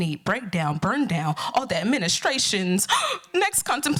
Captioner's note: gasp